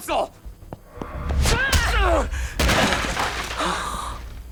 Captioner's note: hit; Max yells; Jae gasps